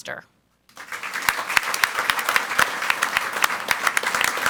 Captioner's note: audience applauds